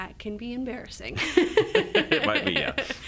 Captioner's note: laugh